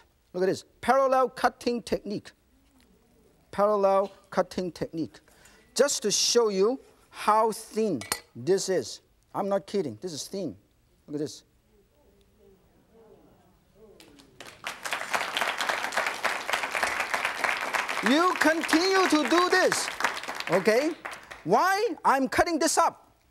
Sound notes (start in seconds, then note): 12.4 audience applauds; 12.4 audience gasps